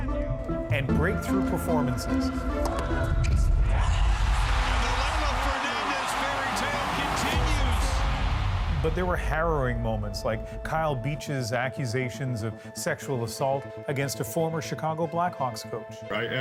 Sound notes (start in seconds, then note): 3.6 cheers and Applause